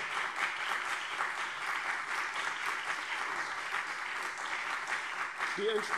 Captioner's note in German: Beifall CDU und BÜNDNIS 90/DIE GRÜNEN